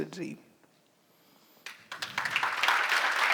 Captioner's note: audience applauds!